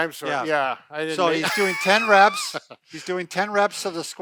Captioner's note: laughs